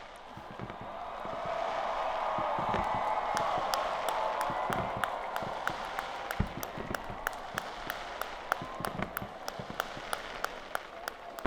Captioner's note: applause and Cheers